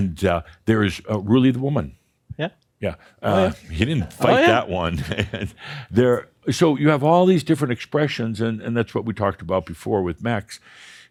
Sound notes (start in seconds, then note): 4.9 chuckles